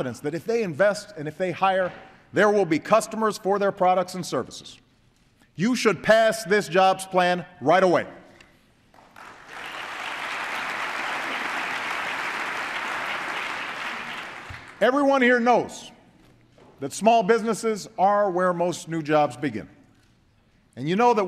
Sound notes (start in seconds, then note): 13.2 applause